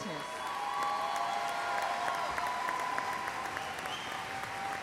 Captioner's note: cheers and applause